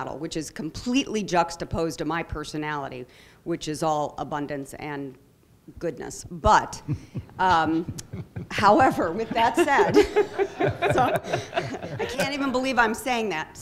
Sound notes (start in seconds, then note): 6.8 chuckling; 10.1 laughter